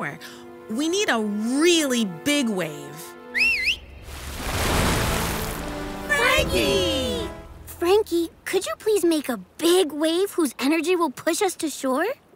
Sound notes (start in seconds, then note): 3.3 Mimi whistling; 3.8 water splashing